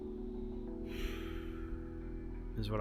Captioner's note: sighs